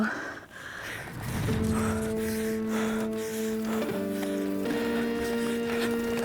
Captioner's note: breathes heavily